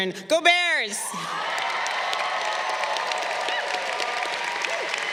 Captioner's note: crowd cheering